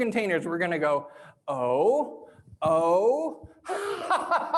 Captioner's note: laughs